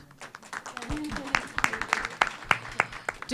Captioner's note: applause